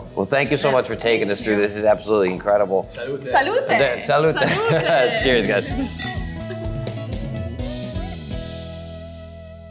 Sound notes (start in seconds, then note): 4.6 glasses clinging